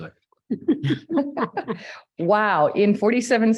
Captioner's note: all laughing